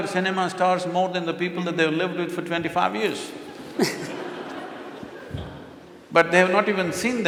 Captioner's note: laughter